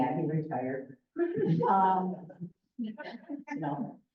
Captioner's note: laughter